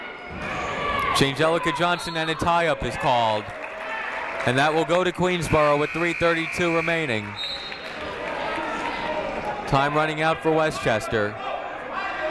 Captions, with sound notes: Janejellica Johnson and a tie up is called, and that will go to Queensborough with 3:32 remaining. (whistle tweeting) Time running out for Westchester.